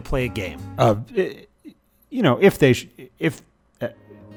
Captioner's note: stammers